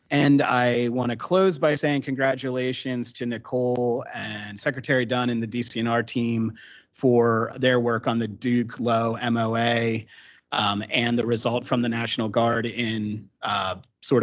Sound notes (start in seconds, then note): none